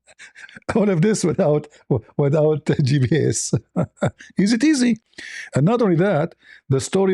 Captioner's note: laughter